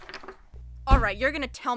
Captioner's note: door opens, chair sliding, the Interrogator sits back down at the table